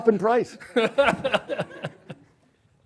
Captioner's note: laughs